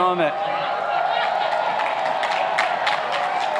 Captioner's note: applauding